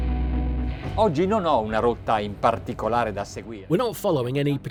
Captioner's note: speaking foreign language